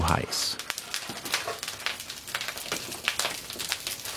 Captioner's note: loud crackling and pattering